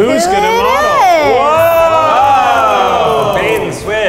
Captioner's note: excited cheers